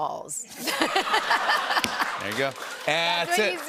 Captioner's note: laughter